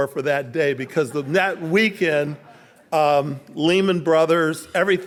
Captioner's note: audience laughing